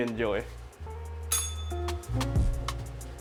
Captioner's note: bell rings